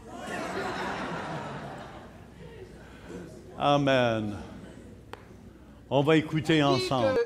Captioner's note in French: rires